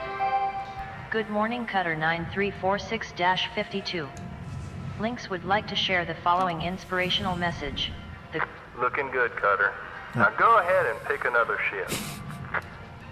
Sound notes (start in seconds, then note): 1.0 Hab Voice; 11.8 chuckle